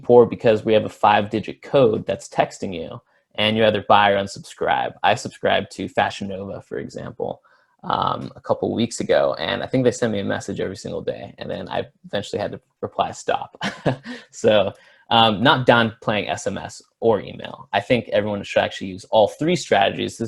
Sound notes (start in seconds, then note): 13.5 laughs